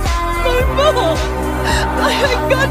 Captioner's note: плакать